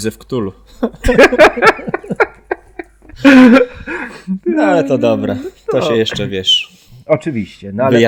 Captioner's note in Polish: śmiech